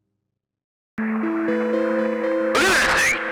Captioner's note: static